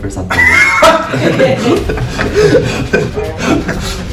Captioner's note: laughing